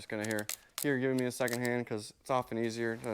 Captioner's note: drill clicking